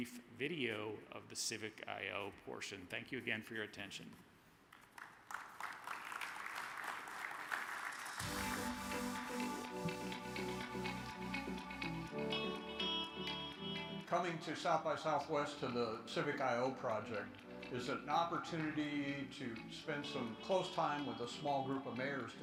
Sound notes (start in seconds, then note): 4.7 audience claps; 8.2 energetic music